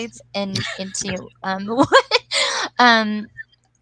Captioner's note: laughs